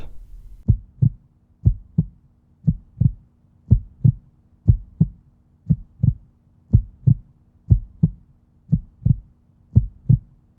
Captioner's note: heartbeat sounds